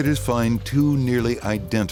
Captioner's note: none